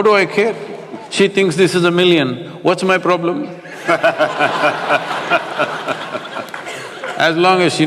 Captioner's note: laughter